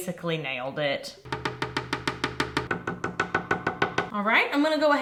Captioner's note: tapping